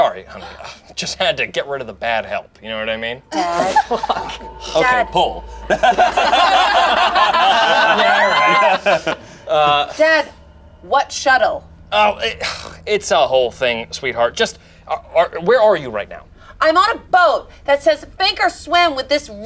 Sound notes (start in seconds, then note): 3.3 group laughs